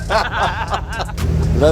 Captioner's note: laughter